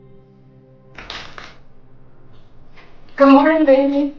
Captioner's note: door opens